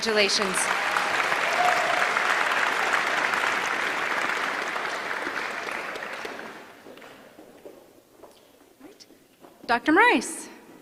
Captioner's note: applause